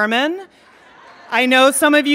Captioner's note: laughing